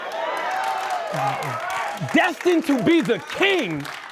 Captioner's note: cheering and applause